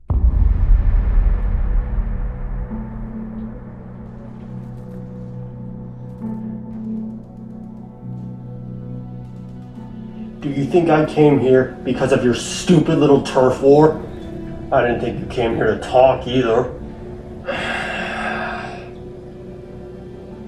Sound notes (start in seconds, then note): 0.1 suspenseful music; 4.2 distant gunfire; 16.8 growls